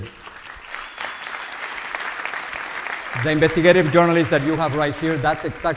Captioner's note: audience applauds